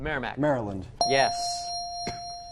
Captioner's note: ding